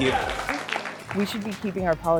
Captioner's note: council members applauding